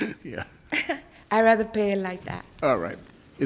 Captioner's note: laughs